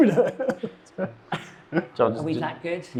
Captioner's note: chuckles